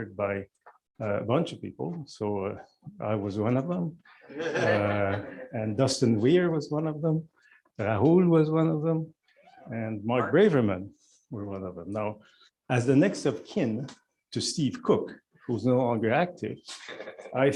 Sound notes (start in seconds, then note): 4.3 laughter